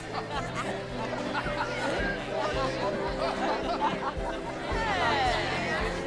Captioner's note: congregation chattering forgiveness